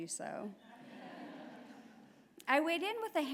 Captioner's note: laughter